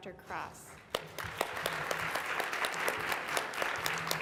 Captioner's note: applauding